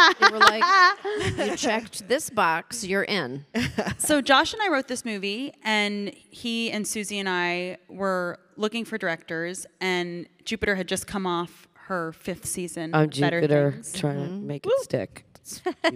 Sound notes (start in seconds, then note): 0.0 Ilana laughing; 3.5 Michelle chuckling